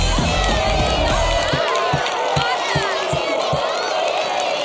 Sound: cheers

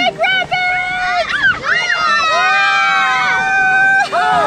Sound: cheering

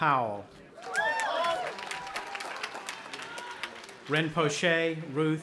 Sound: audience applauding and cheering

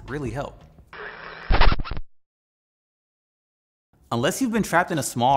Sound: static crackles

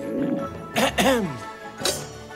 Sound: clears throat

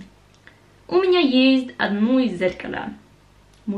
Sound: Russian

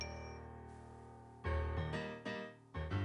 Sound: chime

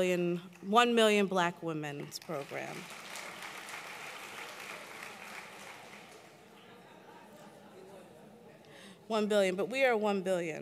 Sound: applause; applause

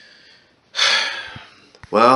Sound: sighs

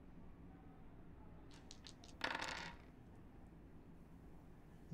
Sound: dice roll on the table

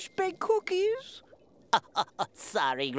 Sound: laughing

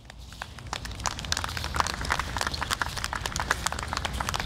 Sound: audience applauding

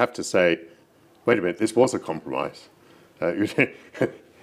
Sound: chuckles

